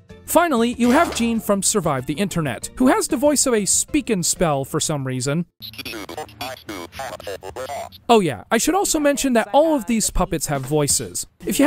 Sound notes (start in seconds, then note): 5.6 robotic gibberish